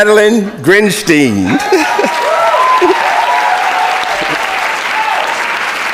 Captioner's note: audience clapping